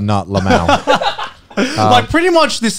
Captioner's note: laughs